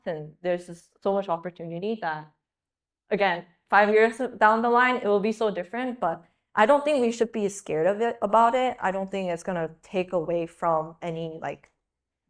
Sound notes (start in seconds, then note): none